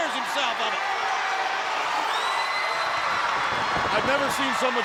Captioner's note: crowd cheering